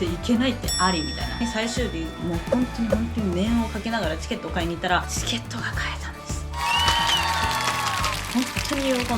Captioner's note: applause